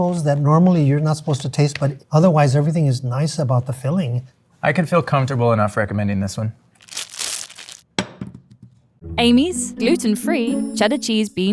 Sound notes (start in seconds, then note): 6.8 wrapper ripping; 6.8 burrito thumping